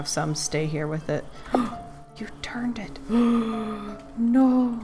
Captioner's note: gasp